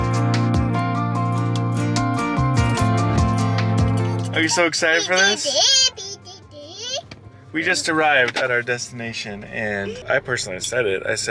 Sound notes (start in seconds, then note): 1.2 upbeat music; 6.3 speaking gibberish